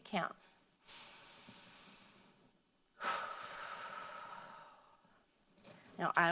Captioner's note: inhaling and exhaling